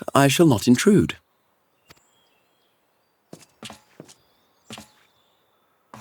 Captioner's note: birds chirping